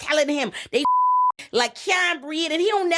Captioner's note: beep